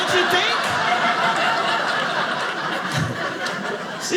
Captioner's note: audience laughing